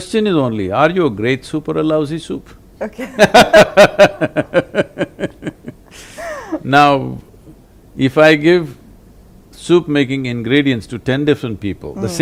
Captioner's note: both laugh